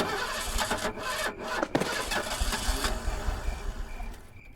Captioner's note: car engine revving